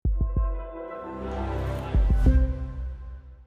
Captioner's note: sound wave